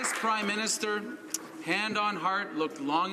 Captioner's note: some Applause